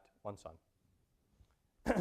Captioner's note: cough